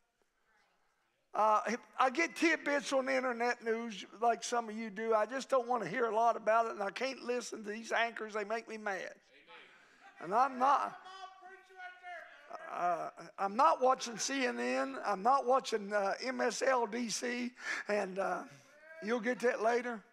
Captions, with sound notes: I get tidbits on the internet news like some of you do, I just don't wanna hear a lot about it, and I can't listen to these anchors they make me mad. (crowd members shouting) I'm not watching CNN, I'm not watching MSL, DC and you'll get to it later.